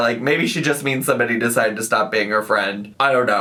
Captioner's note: none